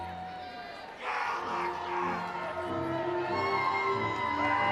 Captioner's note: audience cheering